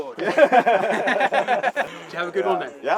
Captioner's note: laughing